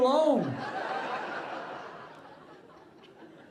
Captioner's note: audience laughing